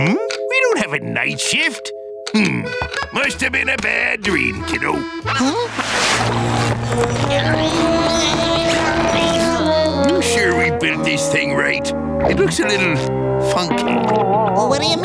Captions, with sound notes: We don't have a night shift? Hmm, must have been a bad dream, kiddo. Huh? [grunting] You sure we built this thing right? -It looks a little funky. -What do you mean?